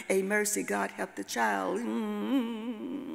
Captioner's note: hums